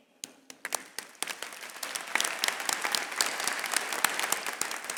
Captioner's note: attendees applauding